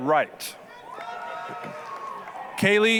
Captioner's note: applause, cheering